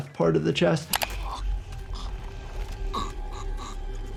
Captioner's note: person gurgles